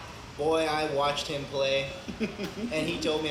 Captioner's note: laughs